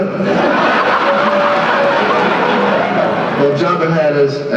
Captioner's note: laughter